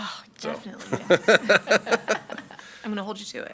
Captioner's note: laughing